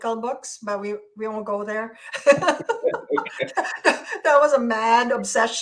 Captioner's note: laughs